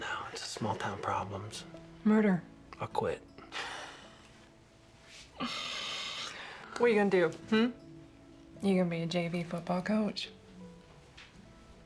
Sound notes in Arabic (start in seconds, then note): 5.0 يضحك